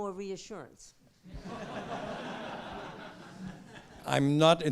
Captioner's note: laughter